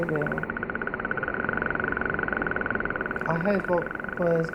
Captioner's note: clicking repeating sounds